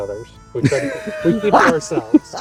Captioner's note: all laughing